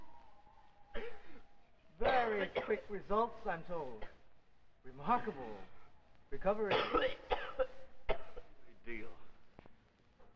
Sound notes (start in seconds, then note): 6.6 Freddie coughing